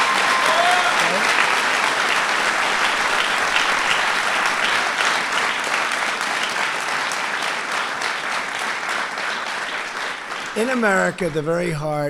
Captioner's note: applause